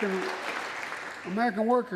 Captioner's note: applause